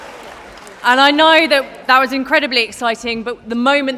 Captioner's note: applause